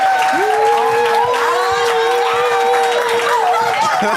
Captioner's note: applause; laughter